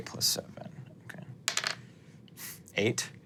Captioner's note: dice rolling